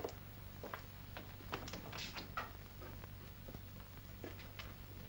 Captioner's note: door opens